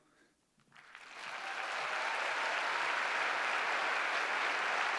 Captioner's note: applause